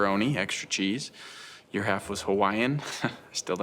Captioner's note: laughs